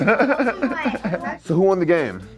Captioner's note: laughter